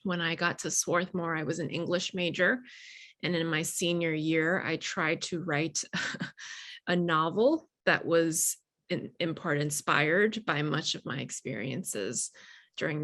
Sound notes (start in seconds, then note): 6.4 chuckling